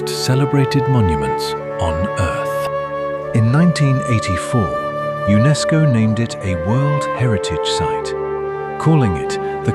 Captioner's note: thoughtful